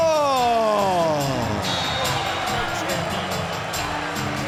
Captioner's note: fans cheering